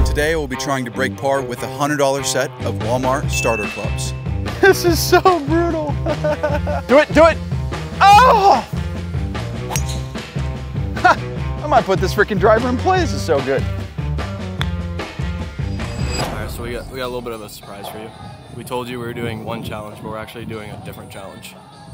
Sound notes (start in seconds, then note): 5.5 laughs; 8.0 screams